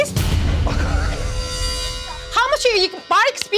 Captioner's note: guffaws